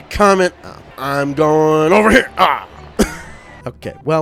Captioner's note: laughs